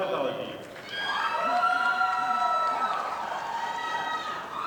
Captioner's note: audience applauding